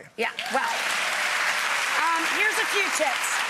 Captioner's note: cheers and applause